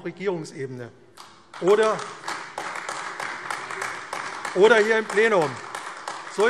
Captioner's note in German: Beifall AfD